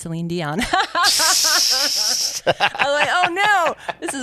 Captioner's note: laughs